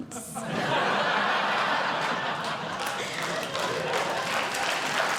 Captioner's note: audience Laughing; audience Clapping